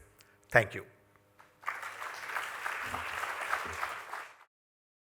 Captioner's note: applause